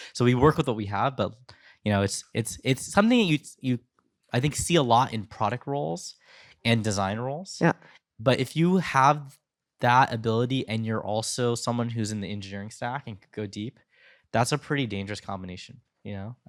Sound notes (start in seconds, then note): none